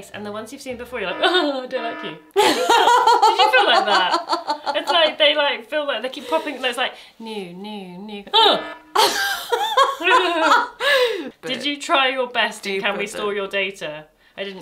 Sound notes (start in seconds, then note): 0.6 warning alarm ringing; 8.3 warning alarm ringing